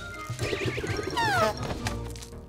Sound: honk

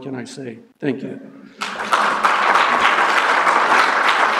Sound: applause

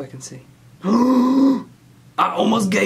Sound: gasps

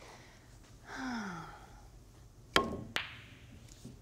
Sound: sighs

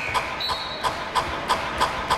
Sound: whistle; increasing beat

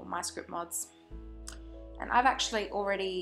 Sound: lip smack

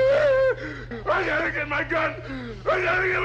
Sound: Barney screams

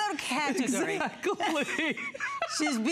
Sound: laughter

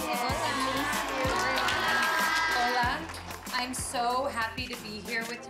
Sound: applause

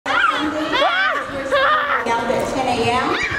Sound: kids shouting

